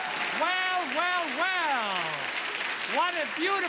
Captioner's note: loud applause